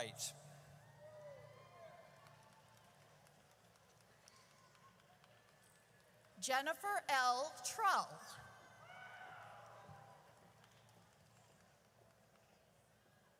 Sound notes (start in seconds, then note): 0.9 audience cheers; 8.8 audience cheers